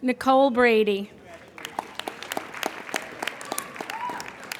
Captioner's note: applauding